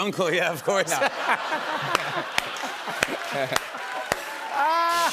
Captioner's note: laughter and applause; rimshot